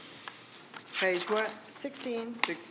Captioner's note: pages rustling